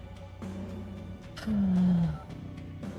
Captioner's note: siiiiighs